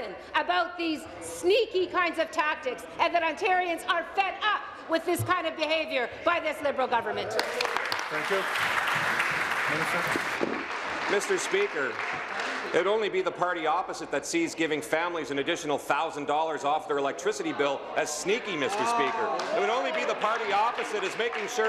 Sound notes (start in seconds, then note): 11.7 applause